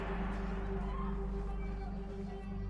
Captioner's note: gunshot